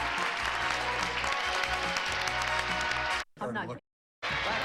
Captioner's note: audience applauding